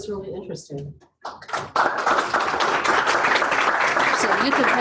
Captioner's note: applause